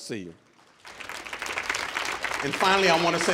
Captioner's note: audience applauding